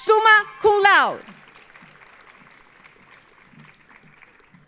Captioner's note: audience applauding